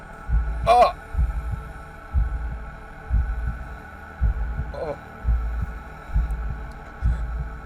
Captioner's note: heartbeats